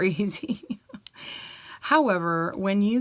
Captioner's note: chuckles